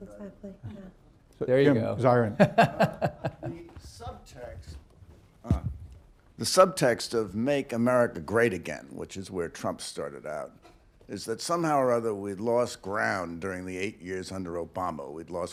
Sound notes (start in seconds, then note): 2.3 laughs